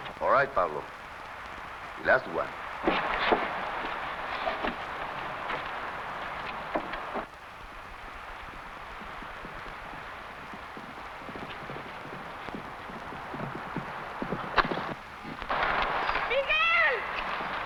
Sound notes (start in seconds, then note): 8.6 horse hooves pattering